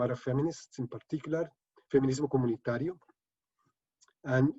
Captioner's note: speaking spanish